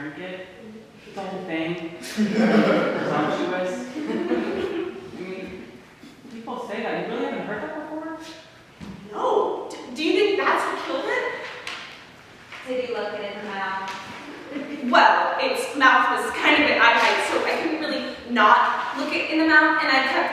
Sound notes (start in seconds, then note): 2.1 audience laughter